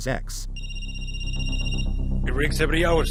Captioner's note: phone rings